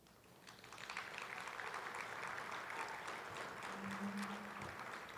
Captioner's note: attendees applauding